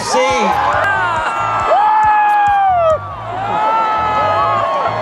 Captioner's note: cheering, yelling, clapping